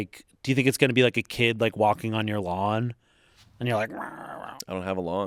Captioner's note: groans